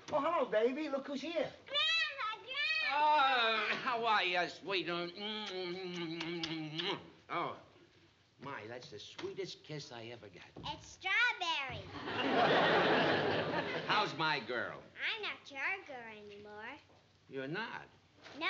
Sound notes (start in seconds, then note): 5.3 kissing